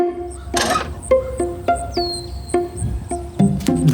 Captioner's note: birds chirp